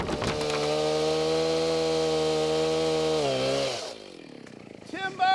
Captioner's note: chainsaw buzzing